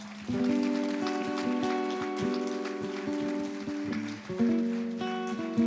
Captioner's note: applause